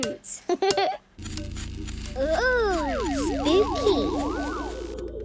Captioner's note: pulsing